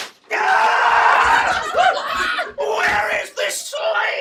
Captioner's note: screaming